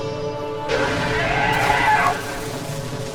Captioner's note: dragon roars